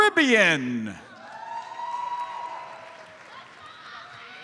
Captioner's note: audience cheers and applauds